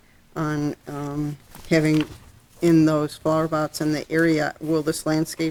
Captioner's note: voice muffled